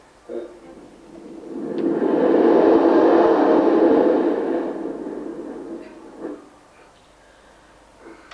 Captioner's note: shri mataji blows into the mic; shri mataji blows into the mic